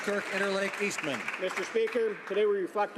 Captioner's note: some Applause